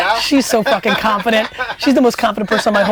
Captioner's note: laughs